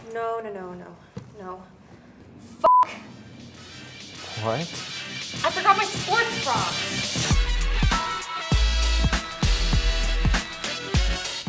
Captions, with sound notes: - No, no, no. (beep) - What? - I forgot my sports bar! (upbeat funk music)